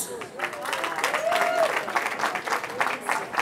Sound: cheering

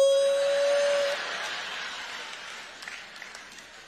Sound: audience laughs

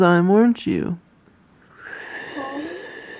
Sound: sound of deep inhaling

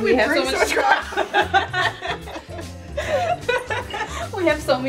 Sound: laughing

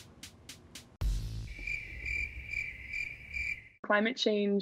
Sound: crickets

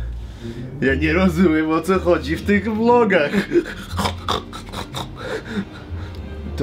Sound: primitive laughter

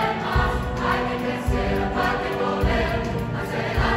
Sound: voices

